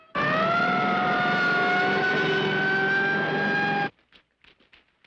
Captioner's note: police sirens blaring